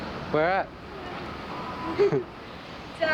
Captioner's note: laughs